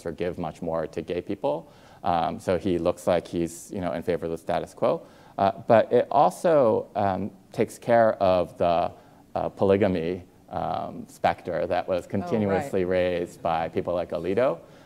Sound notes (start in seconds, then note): none